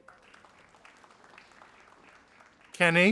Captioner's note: audience applauding